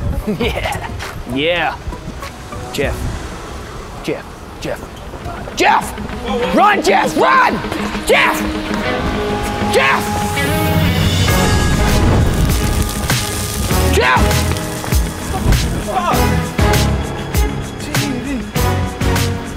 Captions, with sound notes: Yeah...(Laughs) Yeah. Jeff. Jeff. Jeff. JEFF. Run Jeff run. (Screaming) Jeff..Jeff. What the fuck?